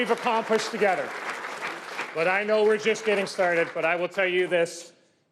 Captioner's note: cheers and Applause